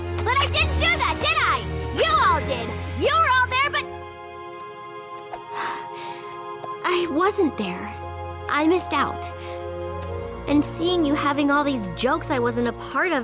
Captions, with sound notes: But I didn't do that, did I? You all did. You were all there but-- [sigh] I wasn't there. I missed out. And seeing you having all these jokes I wasn't a part of